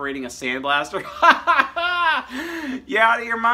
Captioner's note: laughing